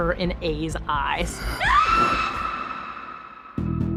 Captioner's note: scream echoes